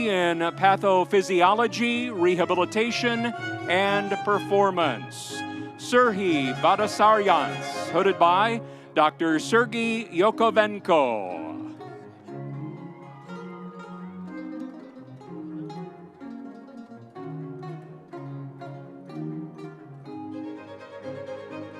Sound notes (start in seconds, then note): 11.5 energetic music continues; 12.6 audience cheering